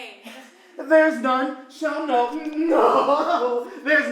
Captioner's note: cries